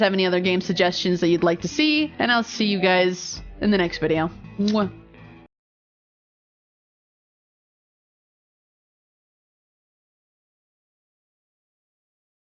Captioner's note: kiss